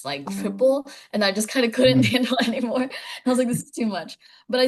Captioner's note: laughing